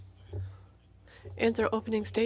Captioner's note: speaking in French